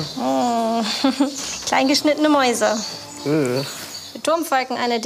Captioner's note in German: lacht